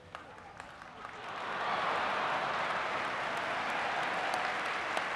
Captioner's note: audience clapping